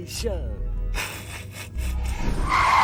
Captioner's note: snickers